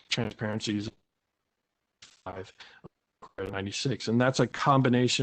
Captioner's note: break in audio